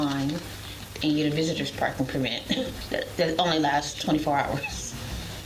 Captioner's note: laughs